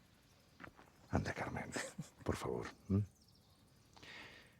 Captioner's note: chuckles